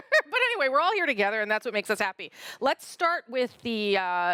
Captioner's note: laughter